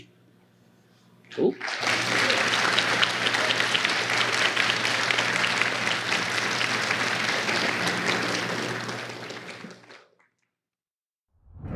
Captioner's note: applause